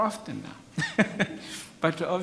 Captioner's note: laughs